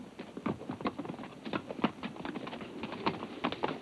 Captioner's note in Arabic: صوت حوافر